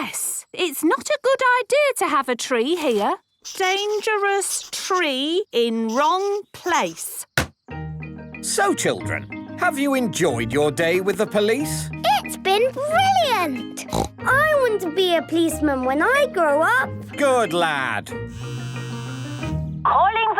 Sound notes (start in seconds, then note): 13.8 snort; 18.3 phone ringing